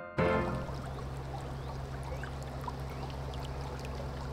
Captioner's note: water flowing